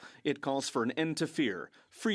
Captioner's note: speaking French